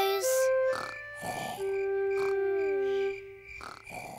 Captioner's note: george snoring